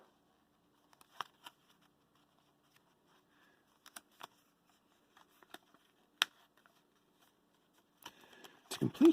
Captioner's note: paper rustling